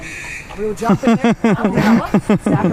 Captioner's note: laughing